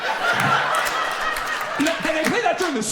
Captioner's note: audience laughs and applauds